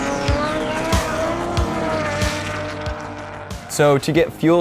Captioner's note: engine revving